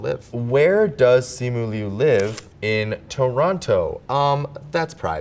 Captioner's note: paper rips